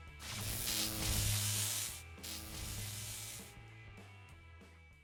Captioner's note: electricity crackling